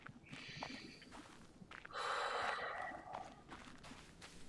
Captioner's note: breathes deep